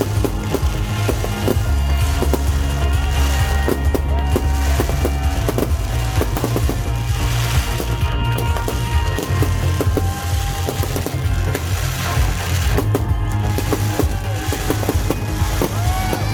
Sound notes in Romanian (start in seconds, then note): 3.6 Aplauze